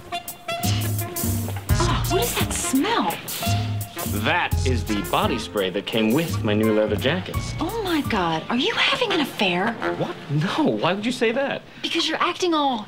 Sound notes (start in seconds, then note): 3.2 sniff; 8.5 scoffing